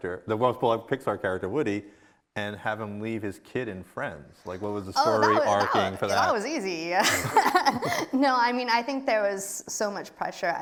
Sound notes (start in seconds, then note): 7.0 laughs